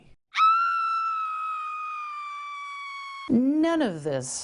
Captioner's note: blood-curdling scream